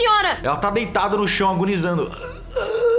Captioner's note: ughuu